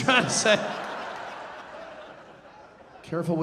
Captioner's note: audience laughing